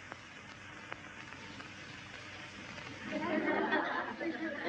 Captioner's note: kids chattering